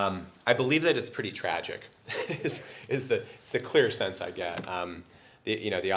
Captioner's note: laugh